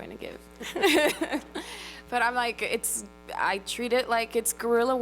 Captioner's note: laughs